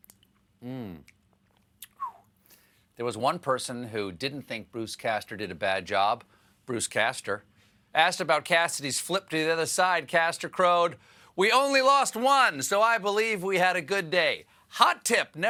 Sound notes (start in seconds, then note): 1.9 whistles